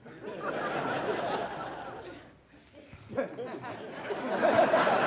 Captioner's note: audience laughing